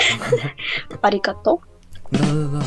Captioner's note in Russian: японский